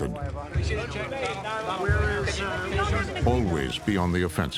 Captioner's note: people talking in background